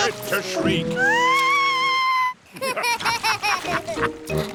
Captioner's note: shrieks; laughter